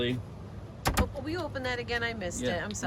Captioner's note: cabinet closed